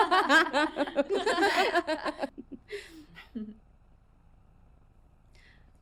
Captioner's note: laughter